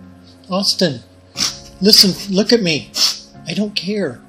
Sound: sniffles

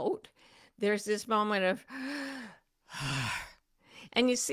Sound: inhales and exhales deeply

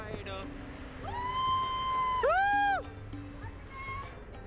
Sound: cheering; indistinct chatter

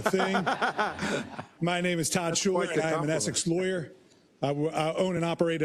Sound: laugh

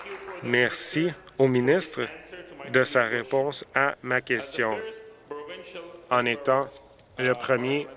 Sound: applause

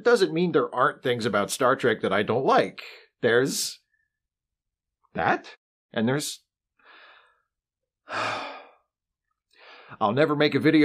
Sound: sigh

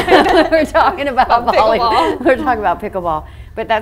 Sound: all laughing

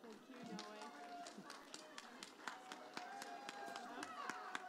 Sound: audience applauding

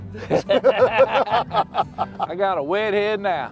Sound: laughter

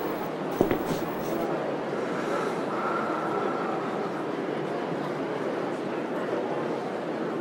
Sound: audience chatter

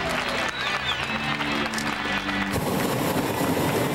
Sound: crowd cheering

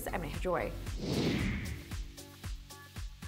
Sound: air whooshing; upbeat music

